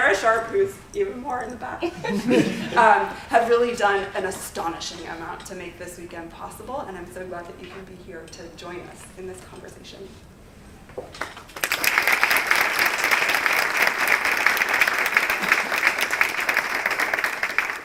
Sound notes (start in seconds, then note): 11.2 applause